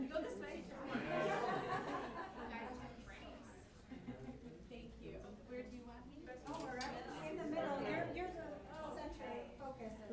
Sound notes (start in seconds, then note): 0.8 laughter; 2.8 chatter